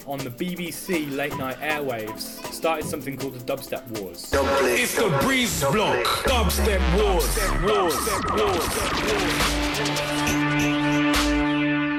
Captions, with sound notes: on the BBC Late Night airwaves, started something called the Dubstep Warz. - [Voiceover] It's the Breezeblock. Dubstep Wars. (dubstep music)